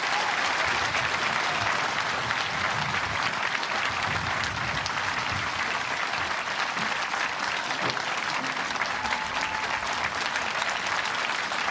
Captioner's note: cheers and applause